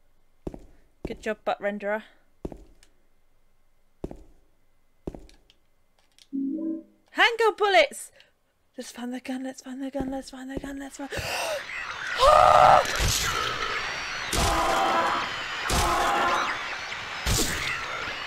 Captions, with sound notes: Good job Butt renderer! HANDGUN BULLETS! Letsfindthegun letsfindthegun letsfindthegun letsfindtheg- [Gasps] AHHH!